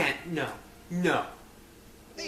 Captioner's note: with anger